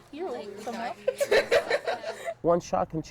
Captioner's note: both women laughing